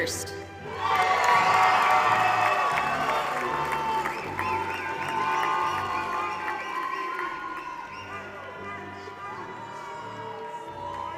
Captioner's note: applause